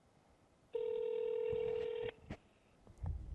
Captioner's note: phone ringing